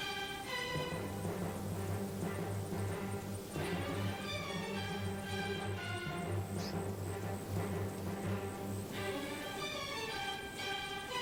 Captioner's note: hisses